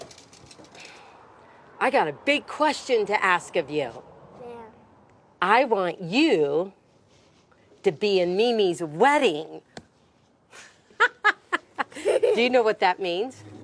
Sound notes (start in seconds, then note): 10.9 laughs